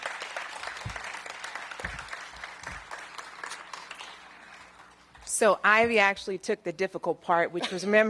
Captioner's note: applause